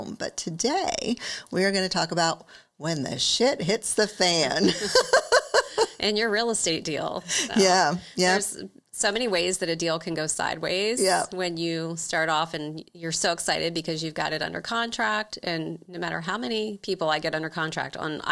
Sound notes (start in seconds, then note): 4.6 laughs